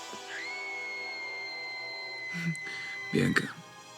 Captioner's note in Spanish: Gritos en el televisor